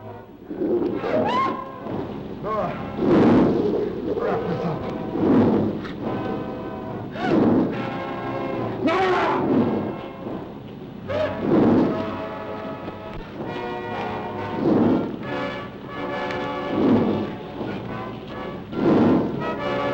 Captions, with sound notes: (Nora screams) (lizard bellowing) - Nora, wrap this up. (tense music) Nora! (tense music) (Nora sobbing)